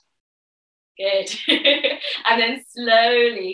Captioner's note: laughs